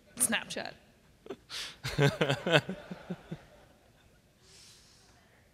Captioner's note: laughter